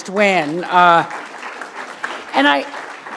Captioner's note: applause